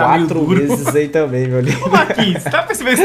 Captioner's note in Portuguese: risos